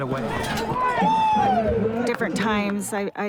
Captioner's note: yelling